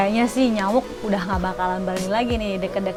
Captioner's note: laugh